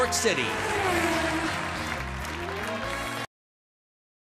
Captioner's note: engine revs